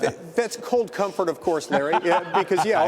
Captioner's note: laughter